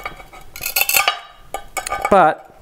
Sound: crackling and snapping

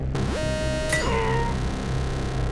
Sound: metallic ting

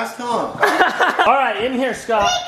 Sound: laughing

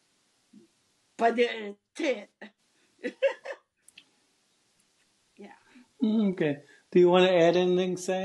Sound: laughs

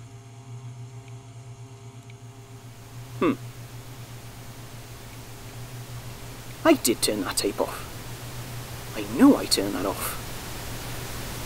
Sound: rising static; click

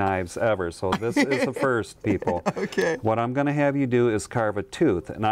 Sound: laughs

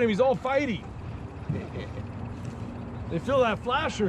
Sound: chuckling

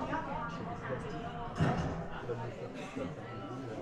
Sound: people chatting in background

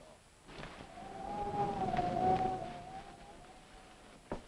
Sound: wind howling

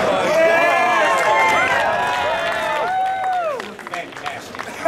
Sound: audience cheering

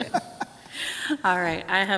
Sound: group laughs

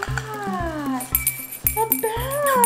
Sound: bell ringing

